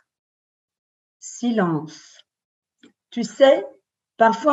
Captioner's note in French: Silence